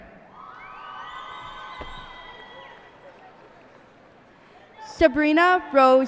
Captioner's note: cheers and applause